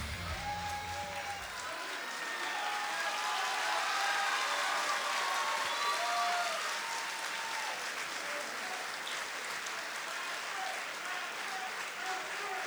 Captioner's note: cheers & applause